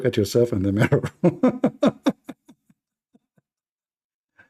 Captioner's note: Ketawa